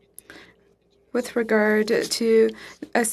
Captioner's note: speaking French